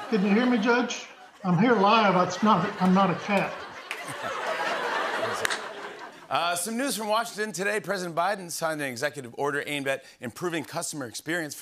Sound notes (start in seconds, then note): 3.7 laughter